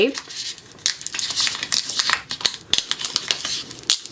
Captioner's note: tape crinkling